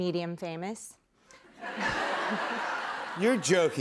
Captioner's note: laughter